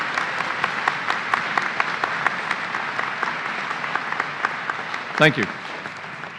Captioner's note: applause